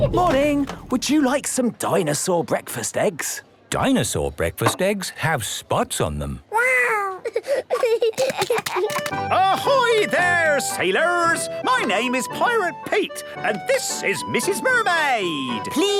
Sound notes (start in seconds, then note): 7.1 giggling